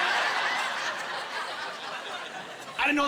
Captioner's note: laughing